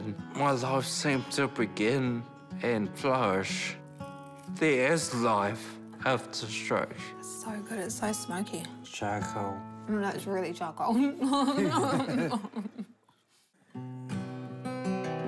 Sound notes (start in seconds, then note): 11.3 both chuckle